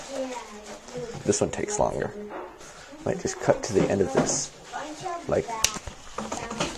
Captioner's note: snapping Fingers